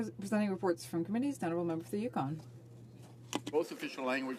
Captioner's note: speaking French